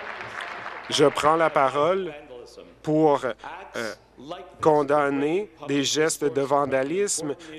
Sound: applause

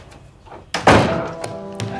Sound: door closing

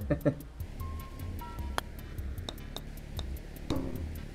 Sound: chuckles; ball clacks and bounces

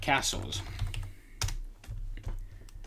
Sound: typing

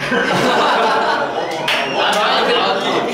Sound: laughing

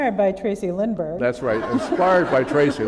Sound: laughter

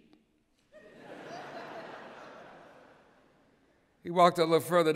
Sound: laughter

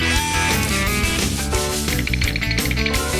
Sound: mechanical motor whirs; brushes scrubbing; rattling

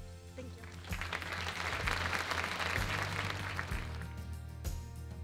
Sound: applause/music

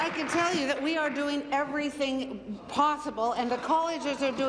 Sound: applause

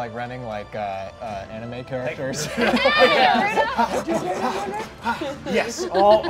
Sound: laughing

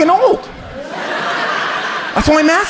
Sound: audience laughs

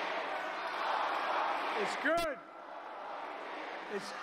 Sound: chanting "Four more years!"

